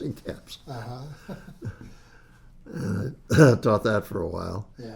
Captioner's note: laughs